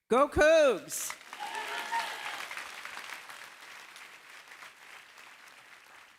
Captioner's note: applause